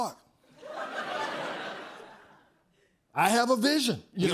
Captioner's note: laughter